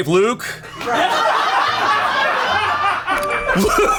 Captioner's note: colleagues laughing; laughs